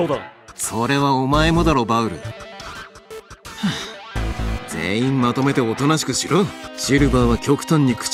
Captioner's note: sigh